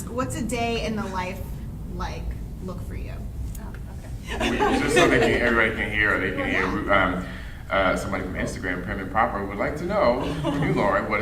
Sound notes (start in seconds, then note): 4.3 laughing drowns out speaker; 4.3 panel laughing